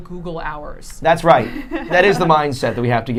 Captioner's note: laughing